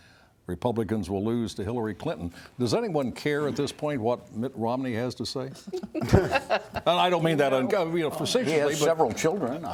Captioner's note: laughter